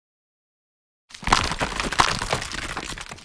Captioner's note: crumble crumble